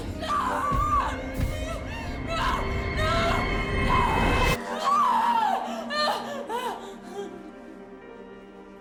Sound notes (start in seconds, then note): 1.8 gasps; 6.1 crying